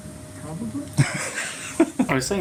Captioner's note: laughter